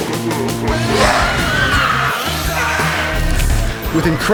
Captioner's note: screaming